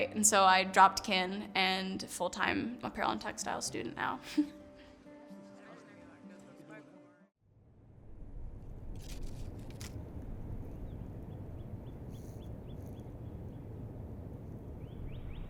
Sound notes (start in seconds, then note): 10.7 birds chirping